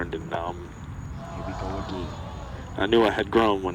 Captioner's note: audience upset